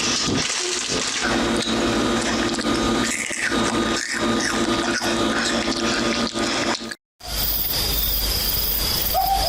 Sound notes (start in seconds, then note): 0.8 munching; 7.2 crickets